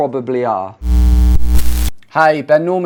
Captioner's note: static noise